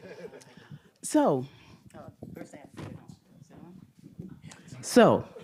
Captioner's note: faintly speaking